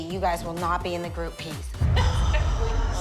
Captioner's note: sighs